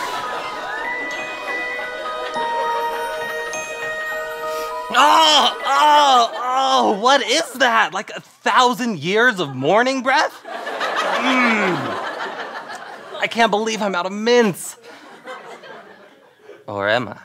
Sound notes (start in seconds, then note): 0.0 magical music; 4.8 yells; 5.0 sniffs